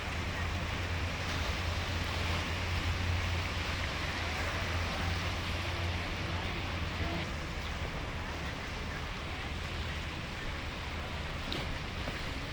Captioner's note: water rushing